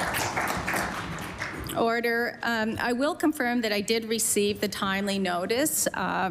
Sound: applause

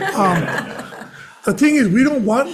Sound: everyone laughs

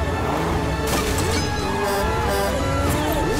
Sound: honking

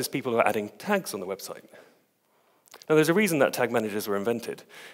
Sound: none

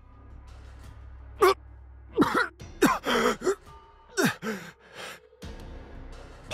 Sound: coughs

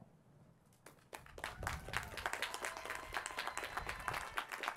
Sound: applause

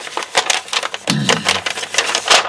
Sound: paper crinkles

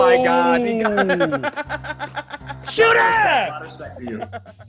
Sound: laugh

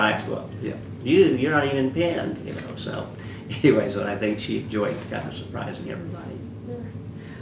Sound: laughs

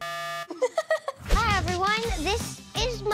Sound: laughs

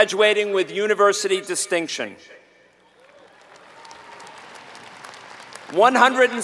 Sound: applause

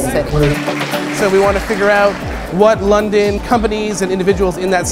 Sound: clapping

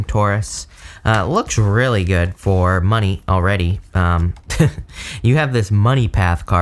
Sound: chuckles

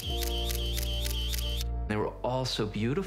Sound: camera clicking

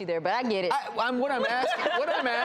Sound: laughs

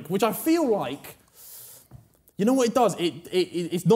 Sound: none

